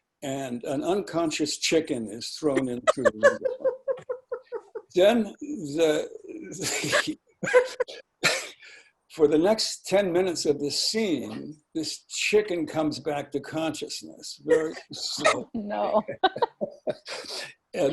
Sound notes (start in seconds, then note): 2.5 laughing; 7.9 laughing; 15.8 laughing